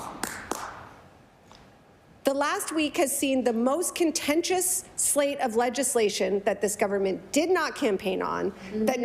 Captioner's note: some Applause